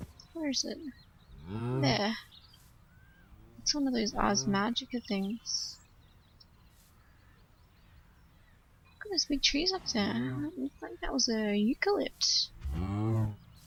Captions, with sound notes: Where is it? [Cow moos loudly] There. It's one of those Ars Magica things. [More cow mooing] Look at those big trees up there. I think that's a eucalypt.